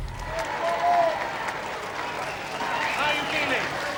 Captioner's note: crowd cheers